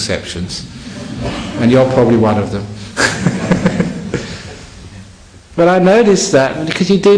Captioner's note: laughter